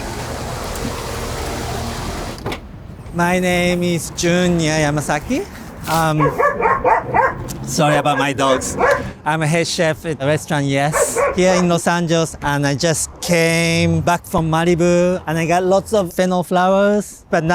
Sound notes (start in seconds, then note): 0.2 car engine drones; 5.8 dogs barking